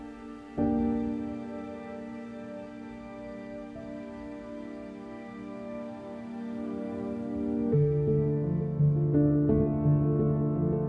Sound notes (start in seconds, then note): none